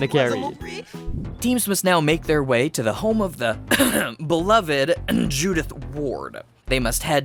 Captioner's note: cough